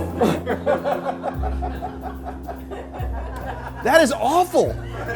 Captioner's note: crowd laughs